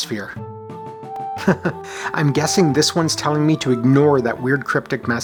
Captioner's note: chuckles